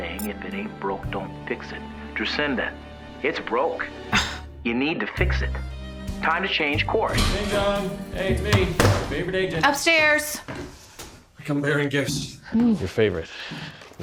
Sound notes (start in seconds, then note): 7.0 front door opens; 8.6 slams laptop shut; 9.8 footsteps approaching